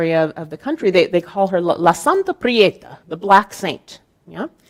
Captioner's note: speaking in Spanish